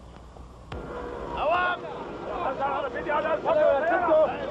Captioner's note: shouting in Arabic